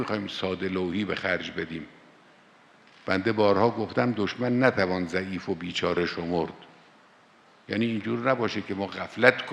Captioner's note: speaking in Azeri